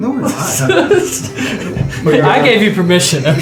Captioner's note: all laugh